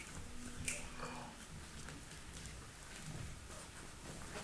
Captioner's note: fingers snap